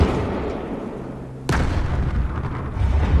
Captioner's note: sound of a gunshot; sound of explosion